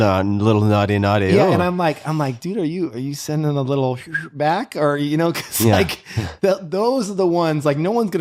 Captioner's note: whistle